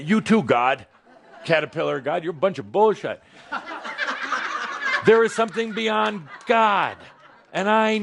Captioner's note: laughter